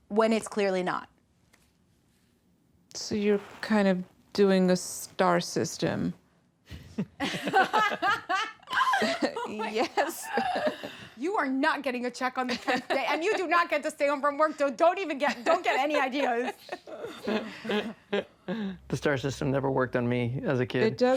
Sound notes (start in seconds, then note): 6.7 laughter